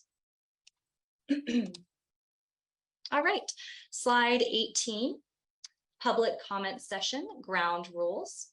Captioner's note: clears throat